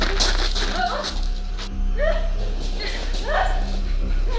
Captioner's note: screaming